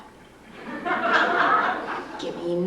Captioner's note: laughter